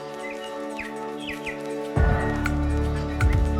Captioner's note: birdsong